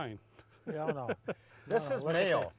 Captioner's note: laughing